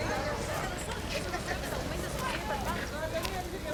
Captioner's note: background chatter